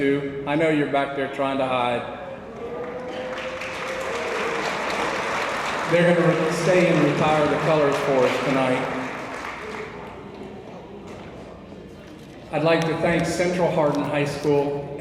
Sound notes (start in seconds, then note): 2.5 attendees applauding